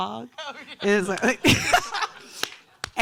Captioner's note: laughing